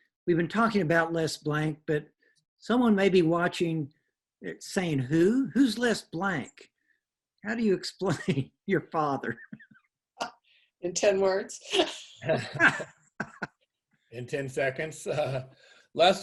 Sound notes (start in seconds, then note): 9.2 laughs; 13.1 guys laughing; 13.1 chuckles